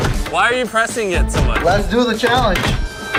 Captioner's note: bang bang bang bang